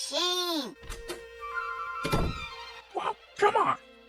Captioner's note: door closing